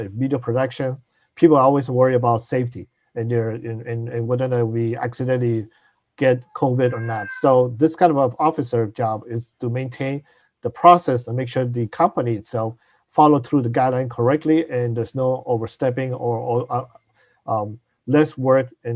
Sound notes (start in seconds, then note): 6.8 cat meows